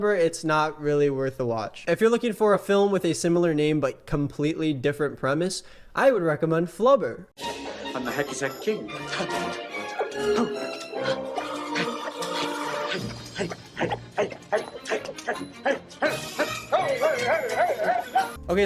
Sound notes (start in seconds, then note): 7.5 jaunty music; 10.5 he exhales sharply